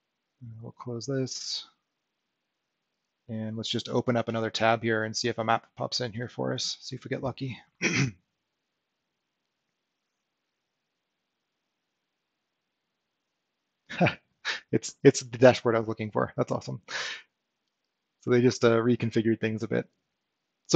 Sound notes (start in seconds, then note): 13.9 chuckles